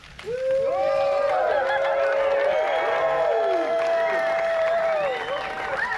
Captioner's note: audience clapping and cheering